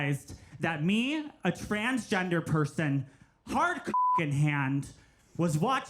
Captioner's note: beep